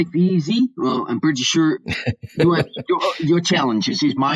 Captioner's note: laughs